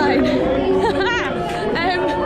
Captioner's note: laughs